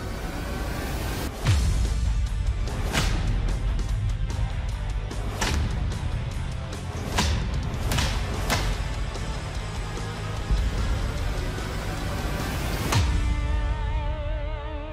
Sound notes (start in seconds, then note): 0.2 rock music; 2.2 impact sounds